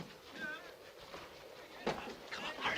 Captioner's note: mens' voices